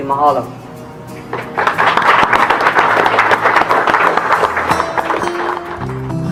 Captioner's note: applause